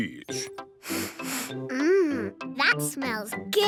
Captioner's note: sniffs